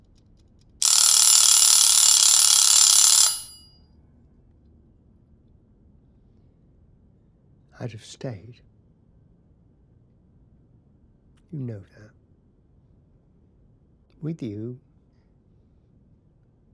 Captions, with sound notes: (timer rings) - I'd have stayed. You know that. With you.